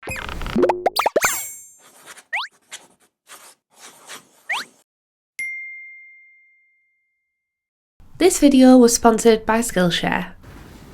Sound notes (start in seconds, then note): 0.5 flowers popping; 1.7 pencil scribbling; 5.4 bell chiming